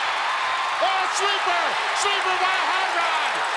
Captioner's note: crowd cheering